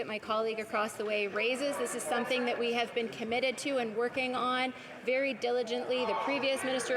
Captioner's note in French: voix de l'interprète